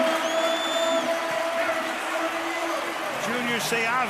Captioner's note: pa announcement